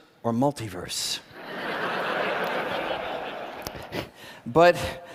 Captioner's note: laughter